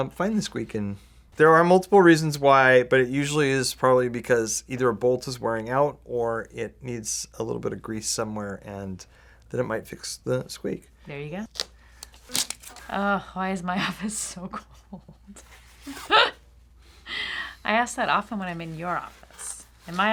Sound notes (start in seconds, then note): 15.8 laughs